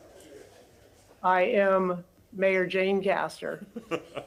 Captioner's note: laughter